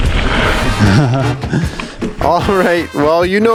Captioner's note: laughs